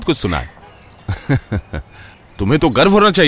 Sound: laughs

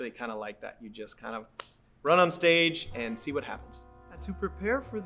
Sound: slaps hands

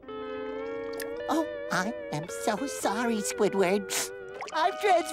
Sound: sniffling

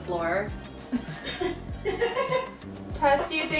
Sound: laughs; giggling

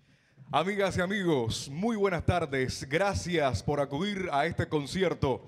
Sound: MC speaking in Spanish

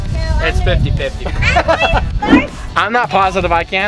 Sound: laughter

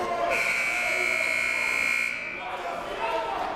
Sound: buzzer

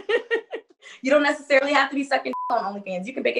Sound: beep

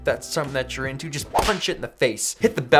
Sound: whipping sound

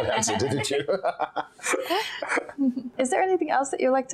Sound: Lady Cimorene and Lord Byron both chuckling

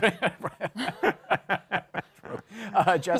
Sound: laughter

